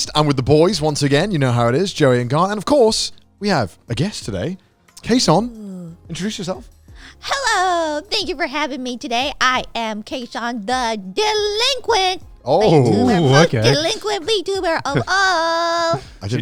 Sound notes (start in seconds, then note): 12.7 everyone oohing